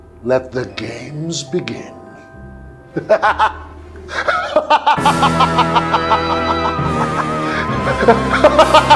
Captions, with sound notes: Let the games begin. [ Evil laugh ]